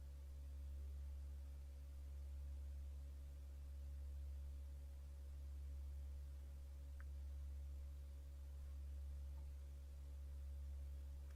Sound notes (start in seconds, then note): none